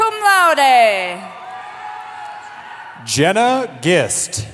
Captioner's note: cheering